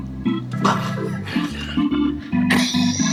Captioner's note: Frank grunts softly